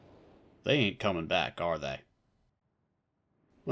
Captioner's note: none